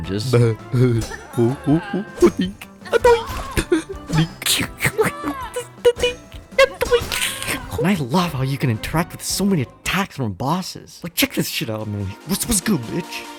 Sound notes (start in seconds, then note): 3.5 giggles like a lil bitch; 4.4 more giggling; 7.5 laughs